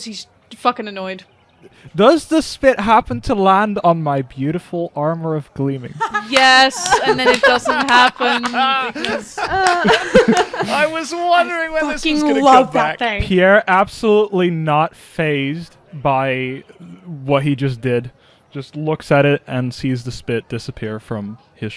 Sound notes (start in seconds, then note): 6.0 laughter and clapping; 10.9 laughs